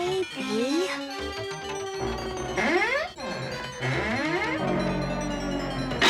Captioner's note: creaking